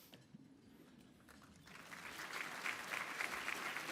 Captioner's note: applause